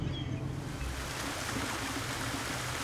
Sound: water splashing

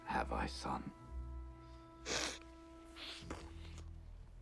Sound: sniffles

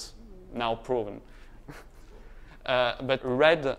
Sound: laughter

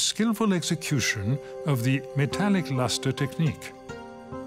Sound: speaks French

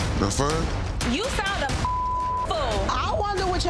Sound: beep

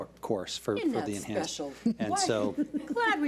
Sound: chuckles

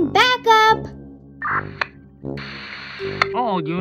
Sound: radio static

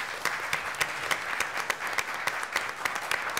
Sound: applause

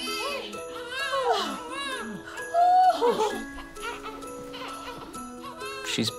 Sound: all ooh-ing over baby

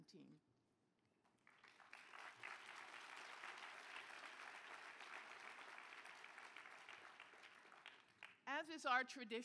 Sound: applause

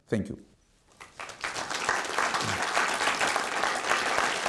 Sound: applause

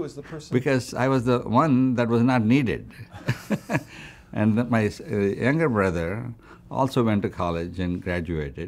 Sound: laughs

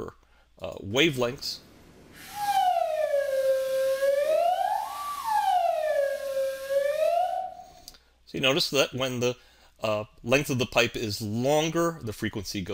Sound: whistle low to high

